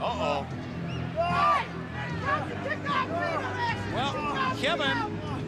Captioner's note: crowd chatter